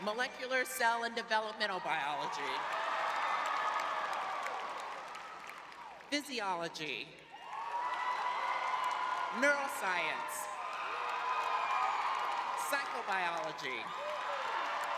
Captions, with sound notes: Molecular, cell, and developmental biology. [cheering] [clapping] Physiology. [cheering] Neuroscience. [cheering] Psychobiology.